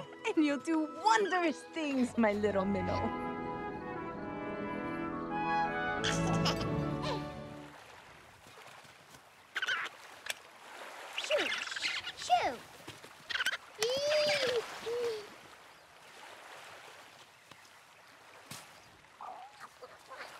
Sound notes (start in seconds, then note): 2.9 upbeat music; 6.0 baby laughing